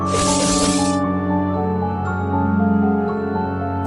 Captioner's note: bolts slashing; soft piano music